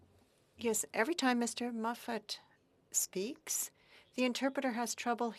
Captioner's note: speaking French